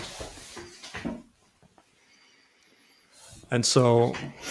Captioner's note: silence